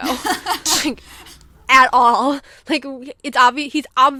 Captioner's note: laughs